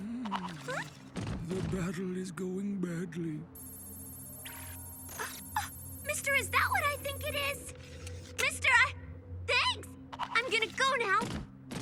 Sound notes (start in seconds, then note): 5.4 gasps